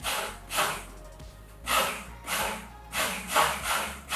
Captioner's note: blender buzzing